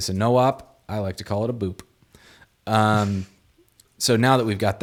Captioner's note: chuckles